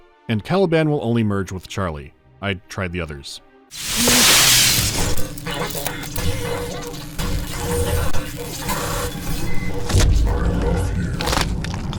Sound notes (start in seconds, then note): 3.7 electronic and mechanical malfunctions, glitching speakers